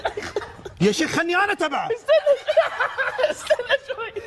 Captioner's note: laughs